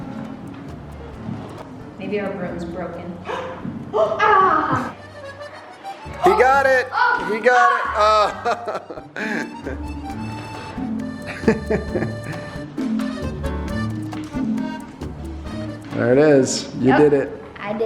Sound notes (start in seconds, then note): 3.6 mom gasps; 5.4 upbeat harmonica music; 7.9 dad laughs; 12.5 upbeat harmonica music